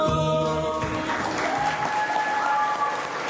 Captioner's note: applause